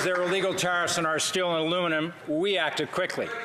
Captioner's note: some Applause